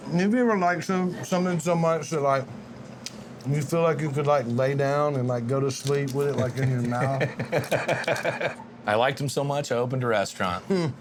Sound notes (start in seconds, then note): 6.4 laughing